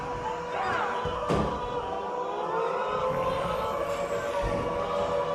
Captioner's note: growls; thud; growling